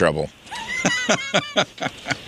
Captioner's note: laughing